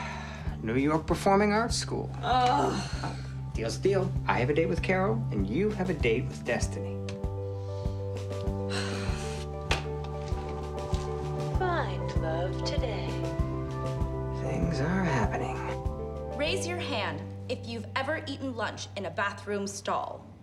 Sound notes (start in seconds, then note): 2.2 groans; 8.6 sighs